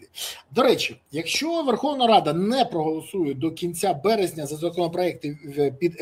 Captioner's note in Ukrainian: сопіння